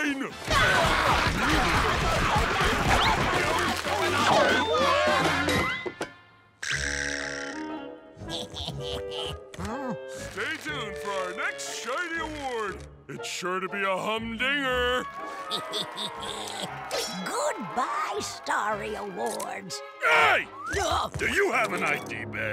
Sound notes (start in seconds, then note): 4.4 screaming; 8.2 laughing; 15.2 laughing